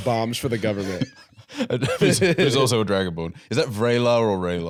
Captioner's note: laughs